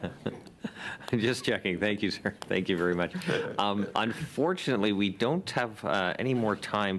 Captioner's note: laughter